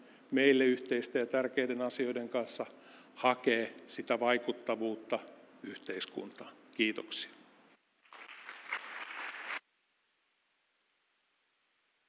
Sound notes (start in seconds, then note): 8.0 applause